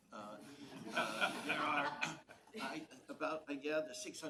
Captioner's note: laughing